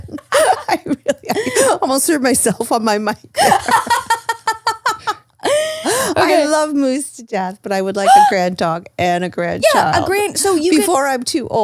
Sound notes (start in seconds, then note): 0.0 laughs; 3.3 laughs; 8.0 gasps